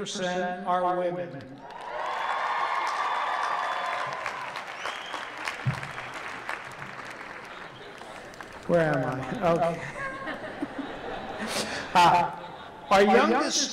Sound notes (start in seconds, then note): 1.6 cheering; 9.3 laughter